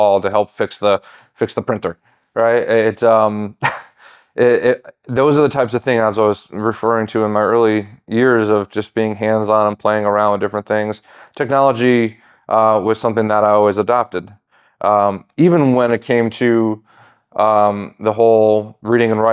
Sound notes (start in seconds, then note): 3.6 chuckles